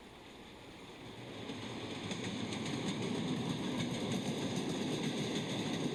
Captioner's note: train rumbling